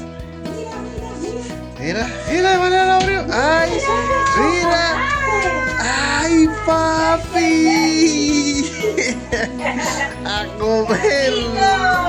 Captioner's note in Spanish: risas